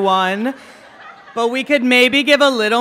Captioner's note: laughing